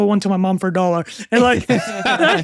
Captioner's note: laughing